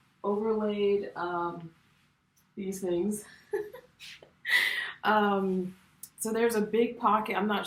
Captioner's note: laughter